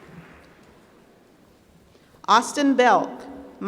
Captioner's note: applause